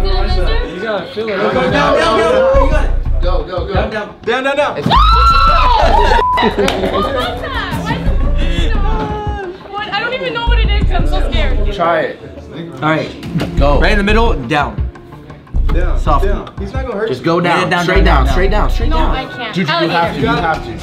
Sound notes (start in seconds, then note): 4.8 screams